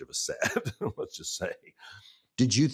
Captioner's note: chuckling